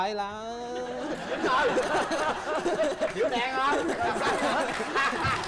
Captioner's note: laughs